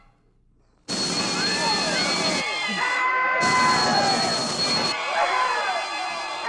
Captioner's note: screaming